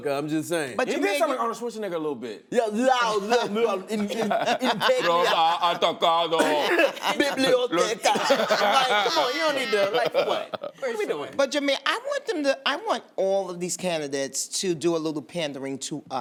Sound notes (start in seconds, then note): 3.2 both slurring Spanish; 6.3 laughter